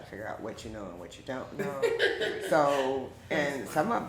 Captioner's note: chuckles